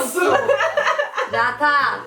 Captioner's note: laughs